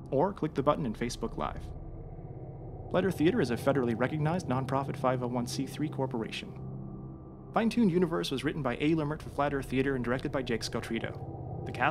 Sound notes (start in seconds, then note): none